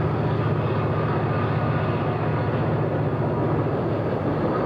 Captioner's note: diesel locomotive